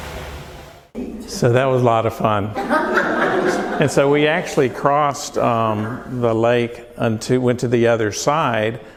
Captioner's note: laughter